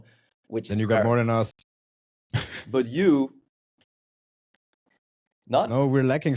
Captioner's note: chuckles